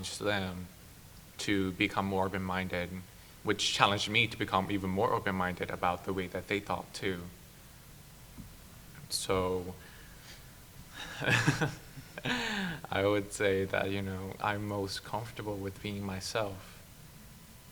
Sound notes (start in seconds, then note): 11.0 laughs